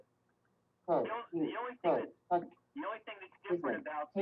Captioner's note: Siri talking